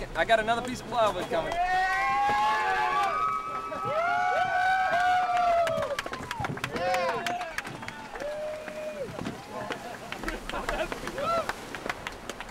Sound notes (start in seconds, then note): 1.7 cheering